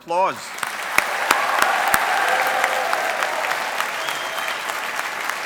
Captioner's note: audience applauding